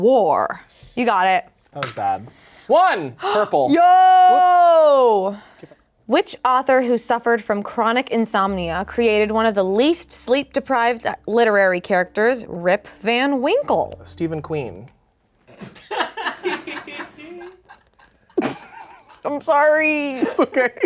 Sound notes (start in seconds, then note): 16.3 crew laughs